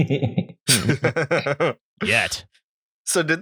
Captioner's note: laughter